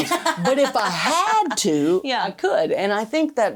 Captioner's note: laughing